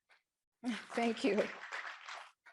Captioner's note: audience applauding